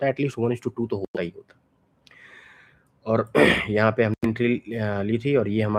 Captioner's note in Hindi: गला साफ़ करने की आवाज़